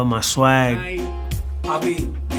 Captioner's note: speaking spanish